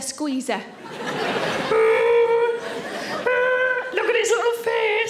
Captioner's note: audience laughing; Sarah groaning